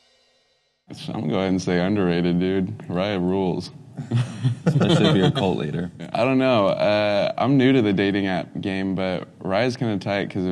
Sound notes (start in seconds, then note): 4.0 laughs